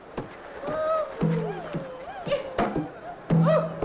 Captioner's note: men yelping